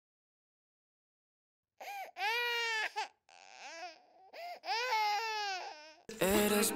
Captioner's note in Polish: płacz dziecka; muzyka imprezowa